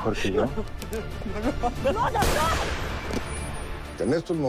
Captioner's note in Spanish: Disparo